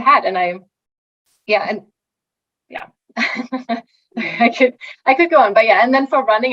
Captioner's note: chuckling